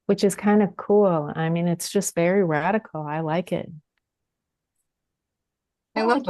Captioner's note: multiple voices